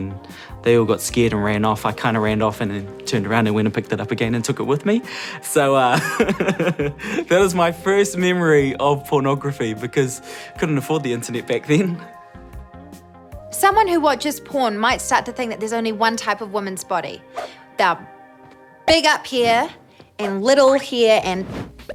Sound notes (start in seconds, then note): 5.9 laughs